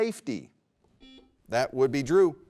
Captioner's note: buzzer rings